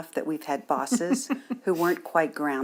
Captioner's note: laughs